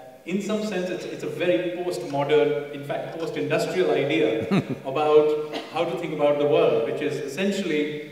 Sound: Sadhguru laughs

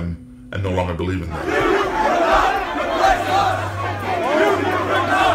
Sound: chanting

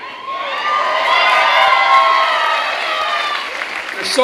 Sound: clapping and cheering

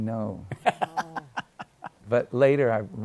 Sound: laughs

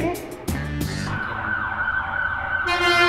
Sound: police car sirens; horn honks

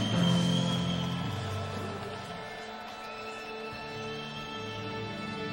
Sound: audience applauds and cheers

